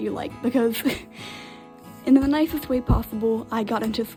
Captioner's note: laughs